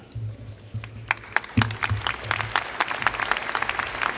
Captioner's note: applause